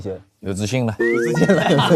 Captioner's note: playfully